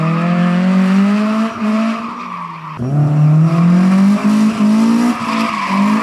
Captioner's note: car sounds